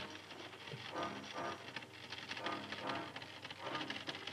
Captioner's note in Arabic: طقطقة الأسلاك